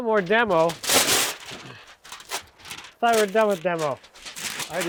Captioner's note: paper crunching